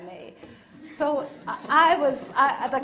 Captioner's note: audience laughing